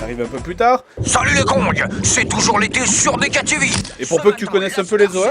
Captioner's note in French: bruits aquatiques